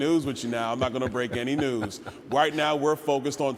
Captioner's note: laughter